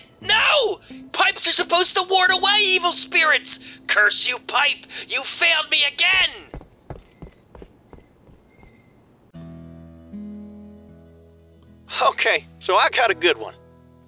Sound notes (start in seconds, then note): 9.6 cicadas chirping